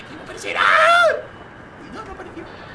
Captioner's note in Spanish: Grita